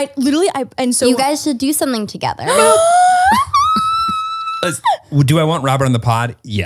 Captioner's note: squeals